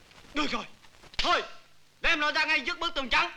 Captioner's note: Malay spoken audio